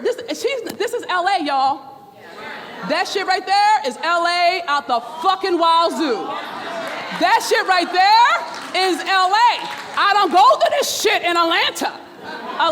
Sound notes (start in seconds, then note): 3.0 murmurs; 7.5 applauding